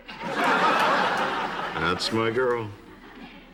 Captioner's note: laughter